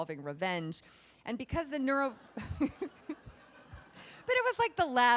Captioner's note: laughs